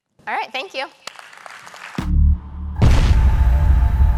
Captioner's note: applause